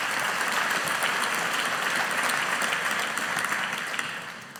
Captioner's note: audience applauding